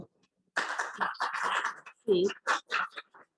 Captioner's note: applause